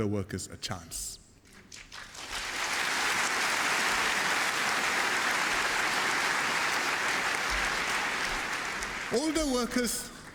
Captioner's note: applause